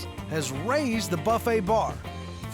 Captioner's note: none